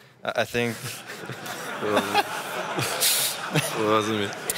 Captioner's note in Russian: смех